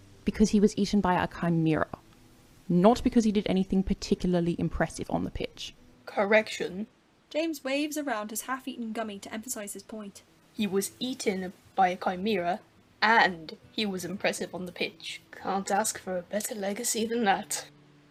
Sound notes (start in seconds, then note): none